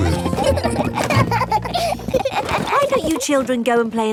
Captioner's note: children laughing